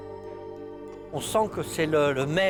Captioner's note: speaking French